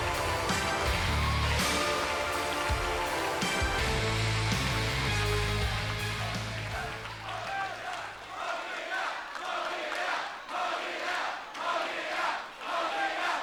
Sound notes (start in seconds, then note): 6.5 music fades out; 8.8 crowd chants "Hug it out"